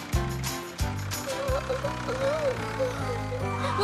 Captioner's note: yawning